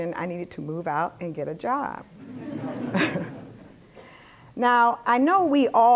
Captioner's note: laughter